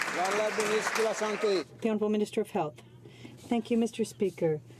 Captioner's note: some Applause